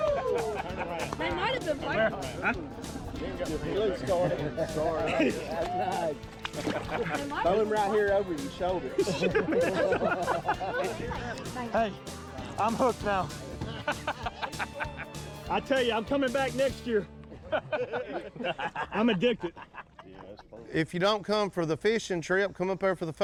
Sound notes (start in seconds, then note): 5.6 all laughing; 14.1 all laughing